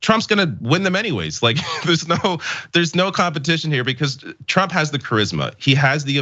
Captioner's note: laugh